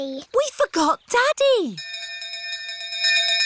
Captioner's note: bell continues dinging